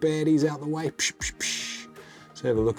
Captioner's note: imitates whacking